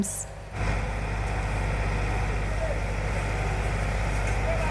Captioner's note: loud truck noise and sweeping